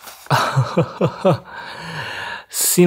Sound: chuckles

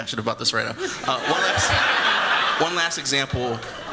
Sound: laughter

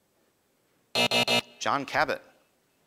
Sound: buzz

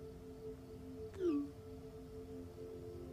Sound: notification chimes

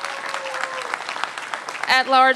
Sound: applause

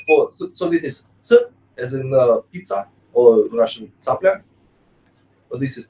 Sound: russian

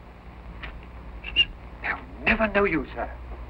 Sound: whistling

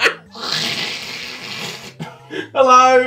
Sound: cat hiss

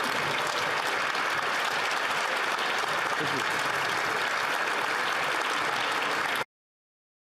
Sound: applause

